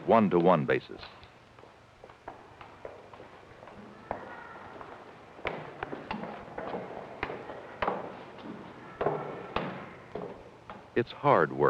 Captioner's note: footsteps